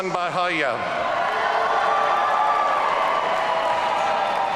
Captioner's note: audience cheering